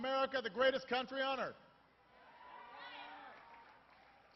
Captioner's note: applause